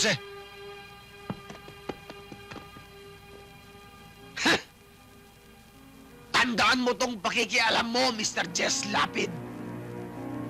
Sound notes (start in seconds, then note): 4.9 scoffs